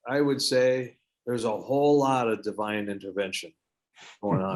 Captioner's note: giggles